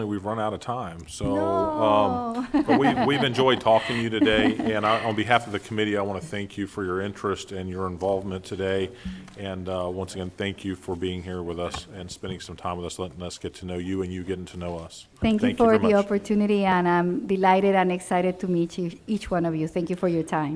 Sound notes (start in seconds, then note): 5.9 laughing